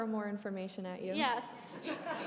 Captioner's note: brief laughter